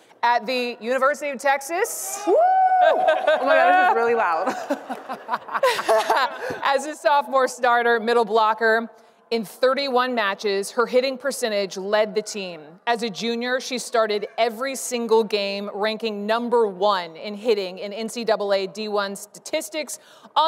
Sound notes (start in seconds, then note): 2.2 audience cheering; 5.9 laughing